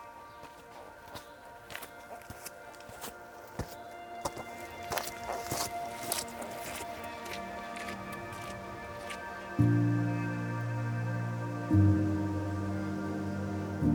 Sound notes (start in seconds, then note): 1.7 footsteps